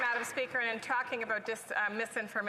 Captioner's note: applause